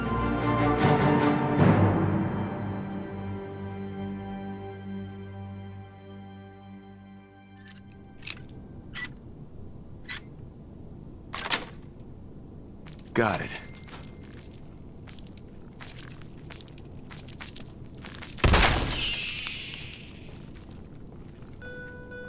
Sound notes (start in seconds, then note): 0.0 dramatic orchestral music; 10.0 metal squeaking; 18.3 gun fires; 18.7 squealing; 22.0 bell dings